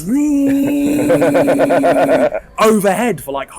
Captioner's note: whirring